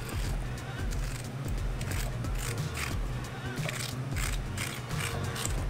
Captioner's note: spoon scraping cucumber